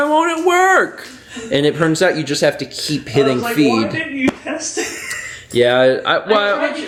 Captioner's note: wheezes